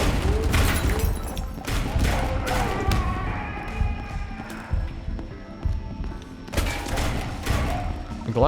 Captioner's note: gunshots